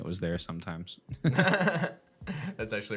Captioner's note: laughs